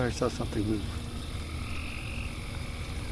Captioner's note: crickets